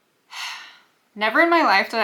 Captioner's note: sigh